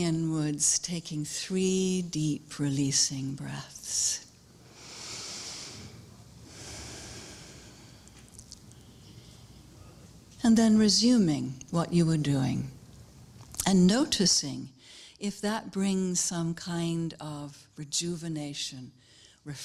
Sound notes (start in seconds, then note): 6.3 sound of exhalation; 6.4 sound of inhalation